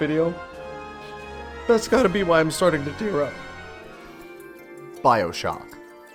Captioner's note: sniffle